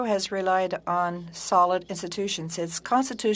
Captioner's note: speaking french